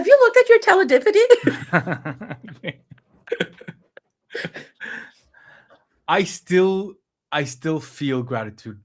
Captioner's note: laughs